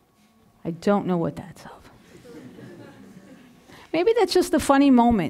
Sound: audience mildly laughing

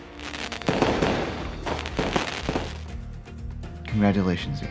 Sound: crackling fireworks

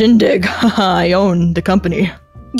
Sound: laughs

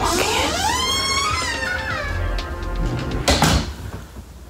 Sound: door creaking

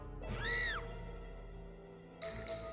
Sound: screams

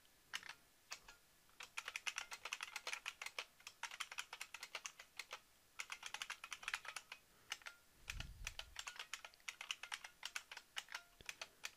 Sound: typing

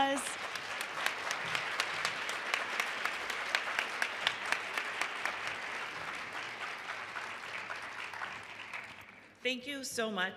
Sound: applause

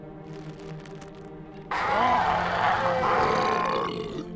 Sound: grunting

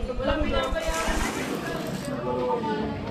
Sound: water splashing

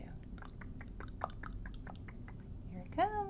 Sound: tongue smacking noises

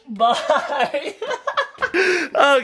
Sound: giggles

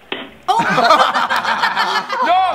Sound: group laughs

